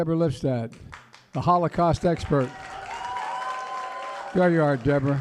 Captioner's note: applause